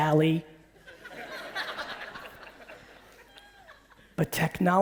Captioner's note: audience laughing